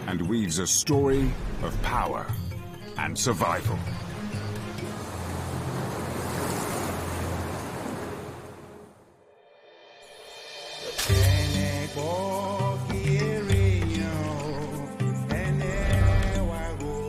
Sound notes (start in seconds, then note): 2.8 waves crashing; 4.3 intense music; 10.4 upbeat music